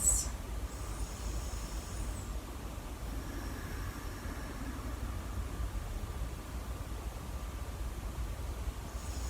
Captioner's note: breathing